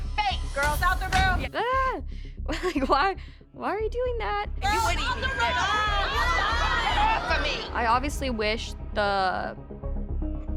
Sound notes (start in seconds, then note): 1.6 chuckles; 4.8 overlapping chatter